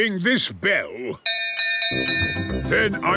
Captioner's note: bell chimes